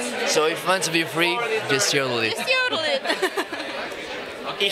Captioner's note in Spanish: risas